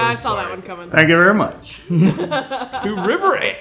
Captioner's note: laughing